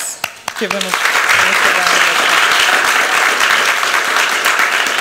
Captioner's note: applause